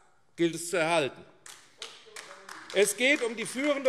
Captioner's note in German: Beifall AfD